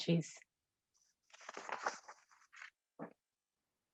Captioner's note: papers rustling